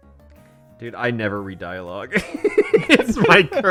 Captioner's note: both laughing